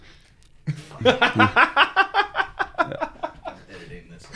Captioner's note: laughing